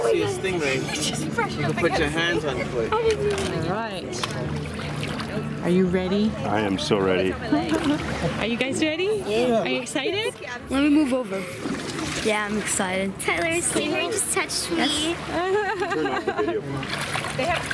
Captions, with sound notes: - As soon as you see a stingray, you can put your hands on the plate. - He just brushed up against me! - [Voiceover] Are you ready? - I am so ready. - [Voiceover] Are you guys ready? - Yeah. - [Voiceover] Are you excited? - Let me move over. Yeah I'm excited. - Tyler the stingray just touched me. (laughing)